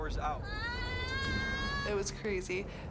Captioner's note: screaming